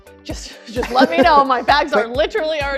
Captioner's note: laughs